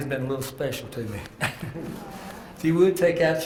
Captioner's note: laugh